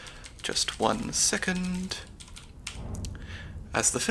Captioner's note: typing sounds